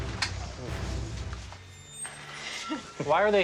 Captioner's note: laughs